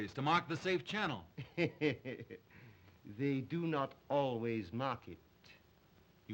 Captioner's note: chuckles